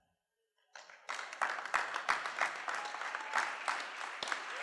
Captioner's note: cheering